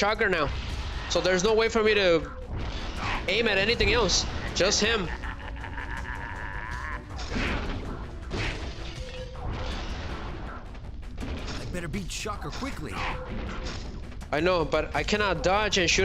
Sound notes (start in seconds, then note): 8.3 screaming and groaning